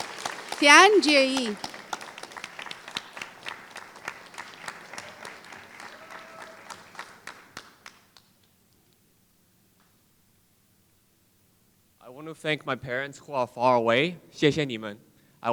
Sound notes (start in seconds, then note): 5.4 applause; 14.7 foreign Language